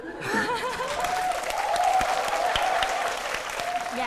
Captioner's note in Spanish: aplausos